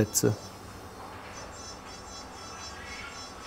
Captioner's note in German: Bohrgeräusche im Hintergrund